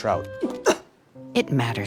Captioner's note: gags